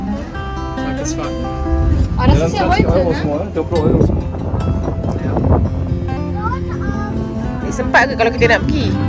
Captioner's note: speaking German